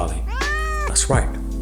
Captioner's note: Charlie meowing; hands clapping